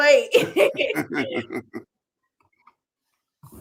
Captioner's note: laughter